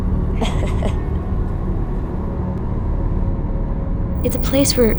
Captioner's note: Moli laughs